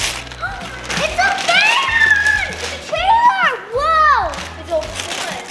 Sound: overlapping chatter

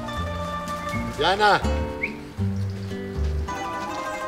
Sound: whistles

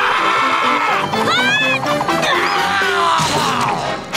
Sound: screaming; grunting

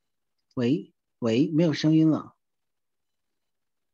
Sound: Mandarin

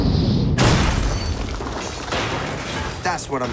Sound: missile firing; missile exploding

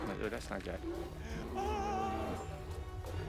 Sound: groans

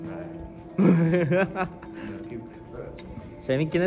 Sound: laughing

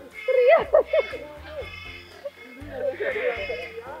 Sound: chuckled

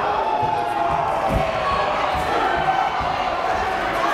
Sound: crowd exclaims

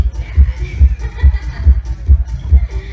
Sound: laughs

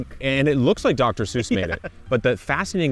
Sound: laughing

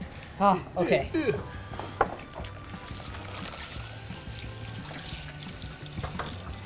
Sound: upbeat music; water running

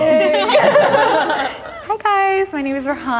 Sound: group laughing

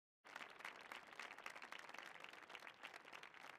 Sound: applause

